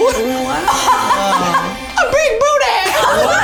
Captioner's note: laughs